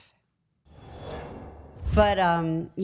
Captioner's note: logo whooshing